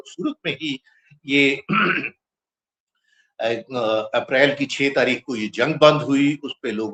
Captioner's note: clears throat